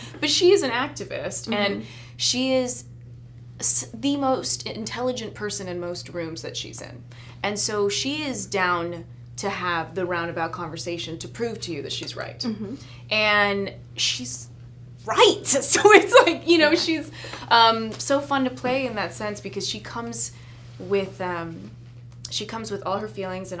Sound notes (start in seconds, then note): 15.4 laughs